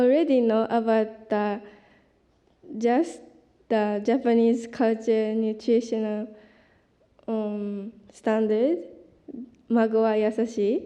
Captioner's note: japanese